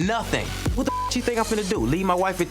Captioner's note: beep